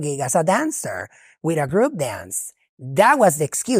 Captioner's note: speaking foreign language